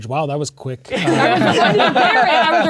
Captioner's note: players laughing